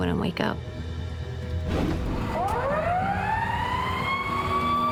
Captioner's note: ambulance wailing